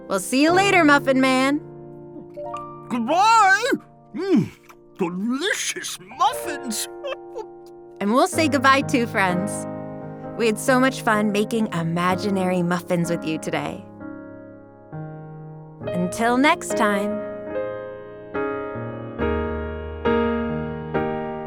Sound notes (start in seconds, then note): 5.0 laughs; 18.0 relaxing piano music